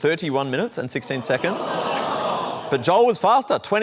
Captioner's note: audience exclaims